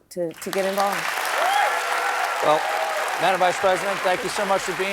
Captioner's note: applause